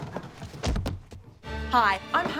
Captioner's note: thump